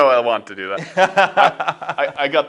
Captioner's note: laughter